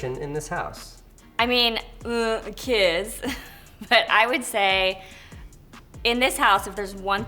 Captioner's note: laughs